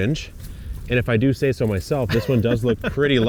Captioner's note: laughs